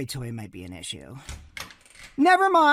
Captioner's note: door opens